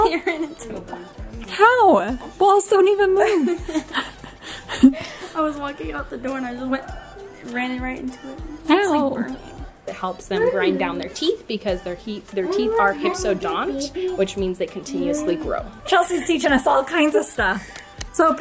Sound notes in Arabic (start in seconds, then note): 1.0 ضحكات خافتة; 3.2 كلاهما يضحكان